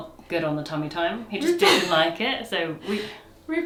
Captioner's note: laughs